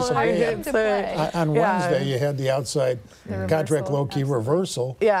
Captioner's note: indiscernible chatter